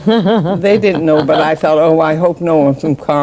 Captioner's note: laughs